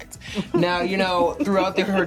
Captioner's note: laughter